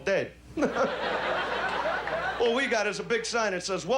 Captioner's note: laughter